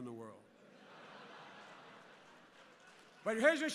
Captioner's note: laughter and applause